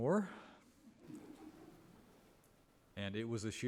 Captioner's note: members of the audience giggling